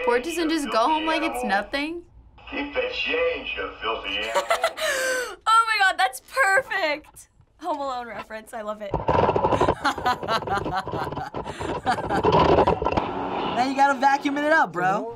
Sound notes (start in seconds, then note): 4.2 laughing; 9.5 laughing